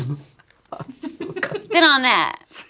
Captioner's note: group laughs